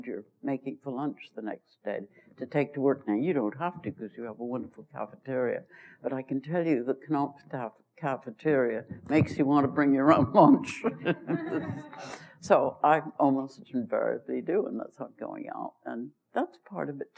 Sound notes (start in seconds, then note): 10.8 laughter; 10.8 laughs